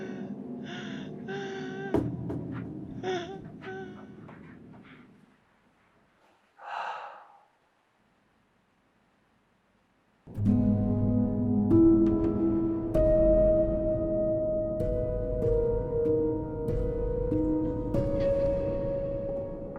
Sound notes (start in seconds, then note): 6.6 sighing; 12.2 ominous music